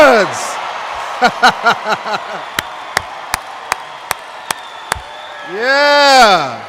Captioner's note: applause/cheers